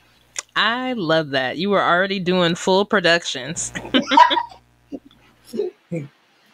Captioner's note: laughter